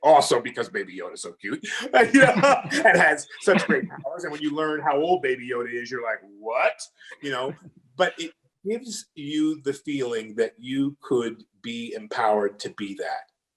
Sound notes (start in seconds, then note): 1.5 laughing; 7.0 laughs